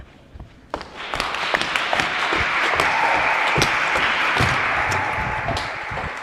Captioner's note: applause